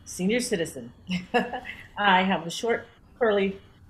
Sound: laughs

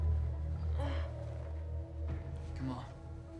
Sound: groans

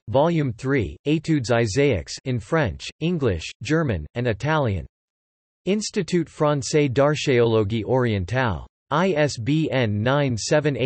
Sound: in French, English, German, and Italian

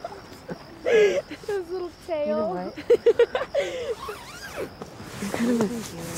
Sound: laughs; laughs

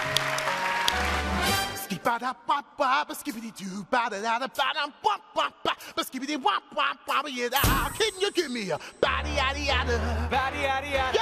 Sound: cheers and applause

